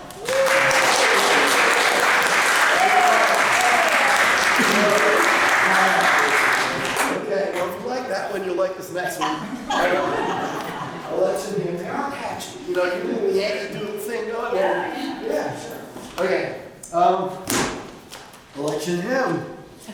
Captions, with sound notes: [APPLAUSE] Okay, well if you liked that one, you’ll like this next one. [LAUGHTER] I like to think, they are catchy. You know, you can hear the Yankee Doodle thing going? Okay. “Election Hymn,”